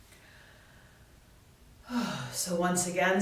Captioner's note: inhales and exhales